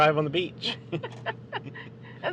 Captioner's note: laughing